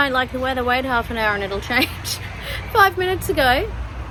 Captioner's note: laughs